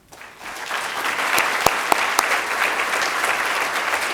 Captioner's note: audience applauds